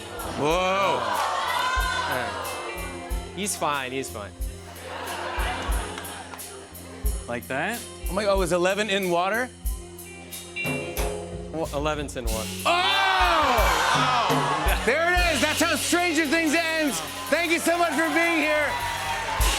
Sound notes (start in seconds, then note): 0.0 audience exclaiming; 4.6 laughter